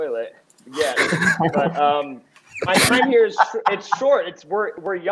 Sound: members laugh

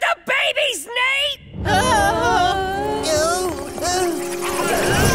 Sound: groaning

